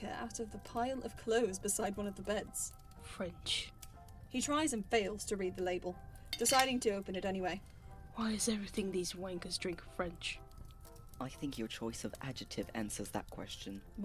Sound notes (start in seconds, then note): 6.3 glass clinks